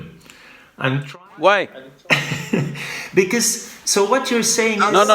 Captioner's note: laughs